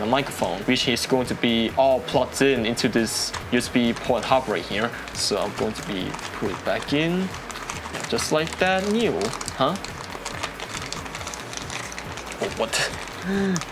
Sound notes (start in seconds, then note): 10.0 distressing plastic noises